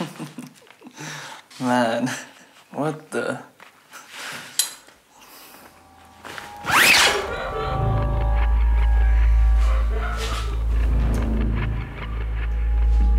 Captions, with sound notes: (chuckling) Man, what the... (distant crying) (suspenseful music)